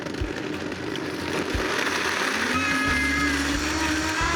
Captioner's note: whirring